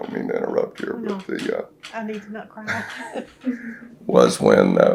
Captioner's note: laughter